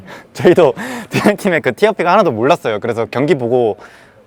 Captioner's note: laughs